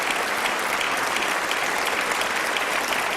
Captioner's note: applause